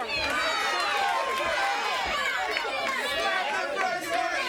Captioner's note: crowd cheering